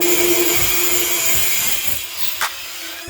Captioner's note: angle grinder cutting metal pulley, sparks flying